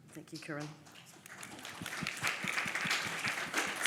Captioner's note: applause